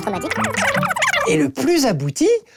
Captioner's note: chipmunk voice